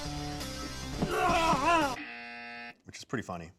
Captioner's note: intense music; groans; buzzer buzzes